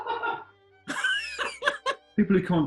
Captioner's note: giggling; laughing